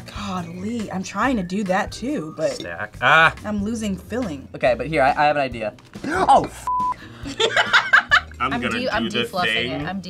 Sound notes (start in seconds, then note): 6.1 gasps; 7.2 laughs